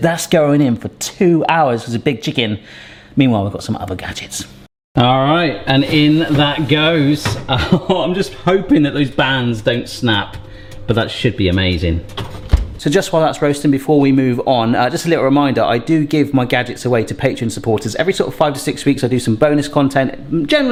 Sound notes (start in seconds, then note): 7.4 laughing